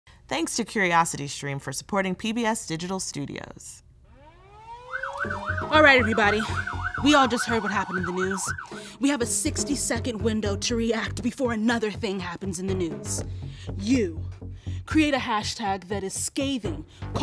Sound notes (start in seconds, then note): 4.1 sirens wailing